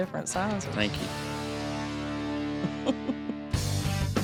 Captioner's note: chuckling